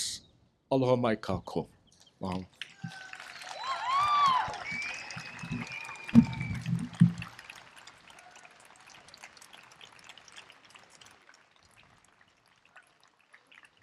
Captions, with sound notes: Aloha mai kākou. Mahalo. [Applause and cheering]